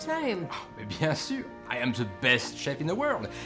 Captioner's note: speaks in foreign language